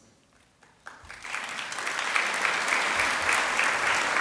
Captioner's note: applause